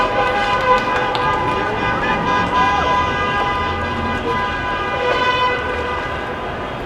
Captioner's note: applause